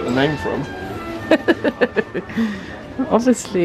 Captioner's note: laughing